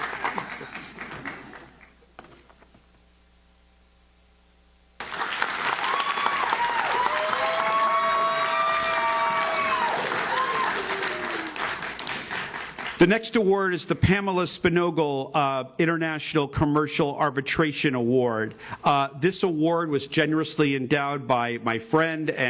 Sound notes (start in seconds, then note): 0.0 audience cheers; 0.0 audience claps; 5.0 audience claps; 5.0 audience cheers